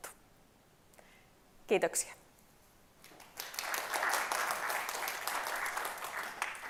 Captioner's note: Aplodeja